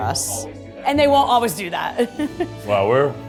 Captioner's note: chuckles